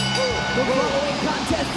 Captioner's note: bell ringing